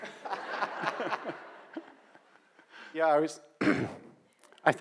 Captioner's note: audience laughs